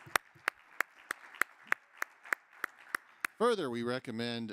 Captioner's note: crowd applauding